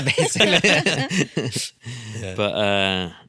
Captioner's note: laughing